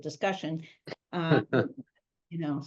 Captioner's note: laughing